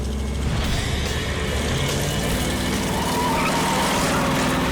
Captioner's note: tires screech